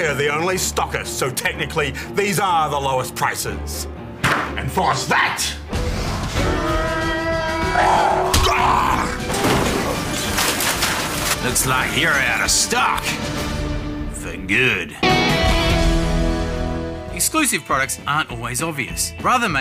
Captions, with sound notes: We're the only stockists, so technically these are the lowest prices. Enforce that. (Roars) (Shrieks) Looks like you're out of stock... ..for good. Exclusive products aren't always obvious.